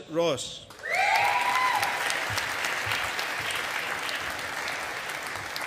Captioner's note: audience applauding